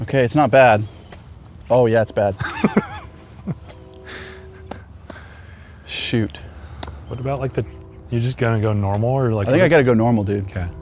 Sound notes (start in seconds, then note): 2.4 laughs